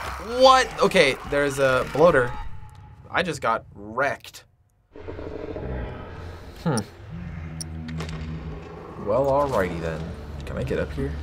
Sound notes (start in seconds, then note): 4.9 faint growling; 7.2 scrolling